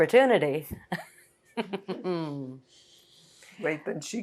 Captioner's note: laughing